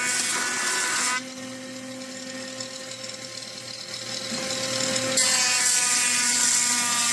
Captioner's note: buzzing